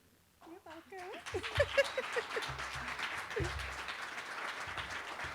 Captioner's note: applause